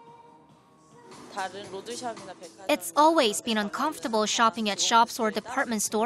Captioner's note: Korean